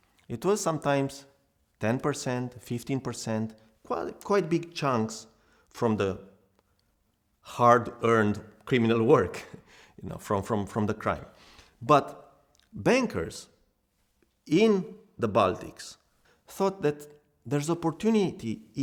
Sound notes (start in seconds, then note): 9.1 chuckles